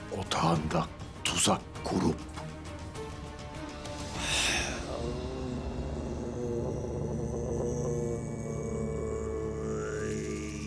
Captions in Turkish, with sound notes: ...otağında tuzak kurup... (Nefes sesi) (İnleme sesi)